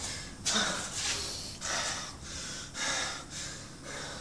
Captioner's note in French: Matt halète, à bout de souffle